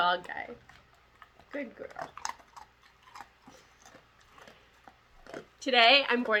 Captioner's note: munch munch munch